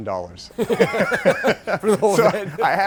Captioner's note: laughs loudly